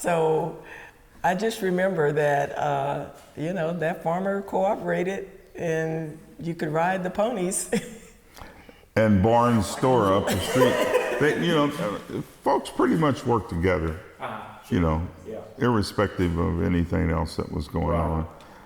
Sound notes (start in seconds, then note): 11.3 laughing